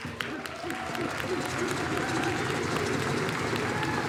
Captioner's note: audience applauding